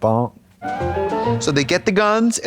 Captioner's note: bright chime